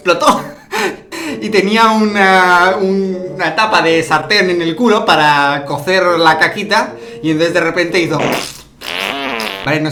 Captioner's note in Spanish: Sonidos de caca